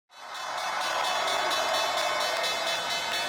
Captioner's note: bell ringing